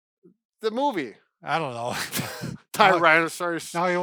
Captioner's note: laughs